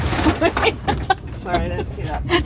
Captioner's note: the van bounces squeaks